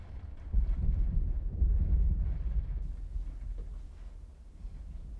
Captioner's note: thunder rumbling